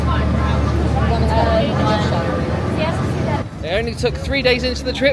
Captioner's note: guests chattering indistinctly